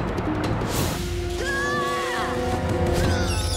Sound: screaming; groaning

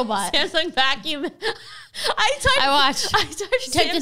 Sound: laughs

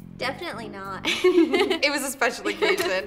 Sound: laughing

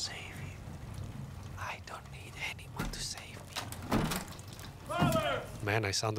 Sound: whispers

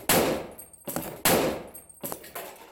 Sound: whack & thumping; whack

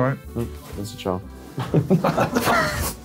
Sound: indistinct chattering; all laughing

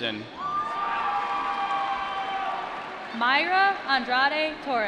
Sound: applause

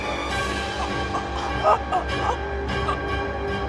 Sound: gasps for air

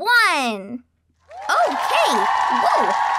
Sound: audience cheering

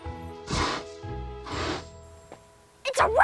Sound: dinosaur grunts

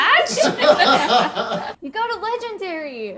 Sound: all laughing

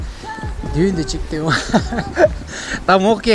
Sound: laugh

